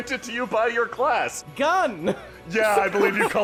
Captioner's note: triumphantly